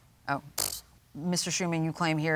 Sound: blows raspberry

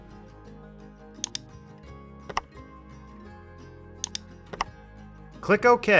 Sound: soft music; mouse clicking

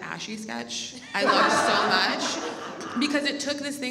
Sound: audience laughs

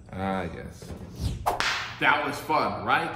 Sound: whip cracking

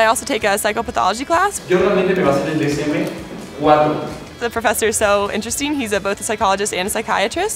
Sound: professor speaking Spanish

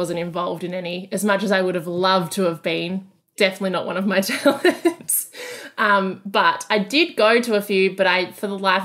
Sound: laughing

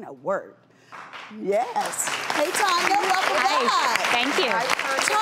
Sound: applauding

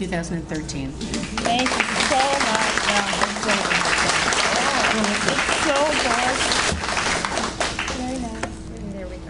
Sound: audience Applauds

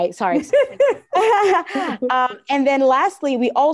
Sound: laughs

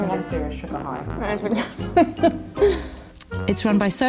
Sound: laughs

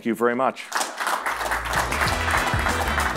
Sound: crowd applauds; sassy brass music

